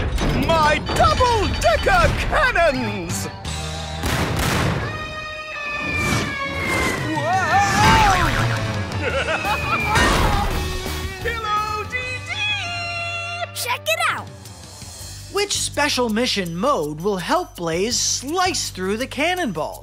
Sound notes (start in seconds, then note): 8.1 Pillow Pirate chuckles